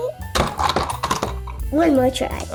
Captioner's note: bonk!